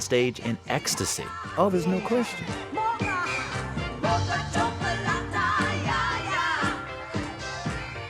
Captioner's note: soundbite of tv show, "soul train"; singing